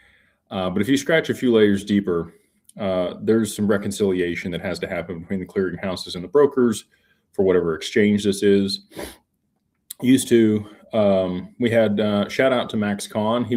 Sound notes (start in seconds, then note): 9.6 snorts